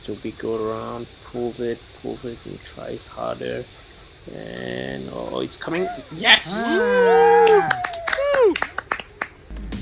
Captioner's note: clap clap clap